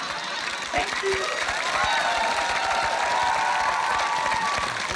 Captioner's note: cheering, applause; laughter